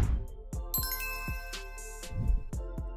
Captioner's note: ding